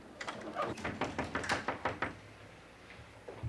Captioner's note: knocking